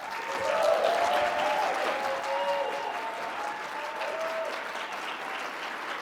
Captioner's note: audience clapping and cheering